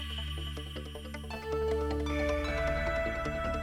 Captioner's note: serene humming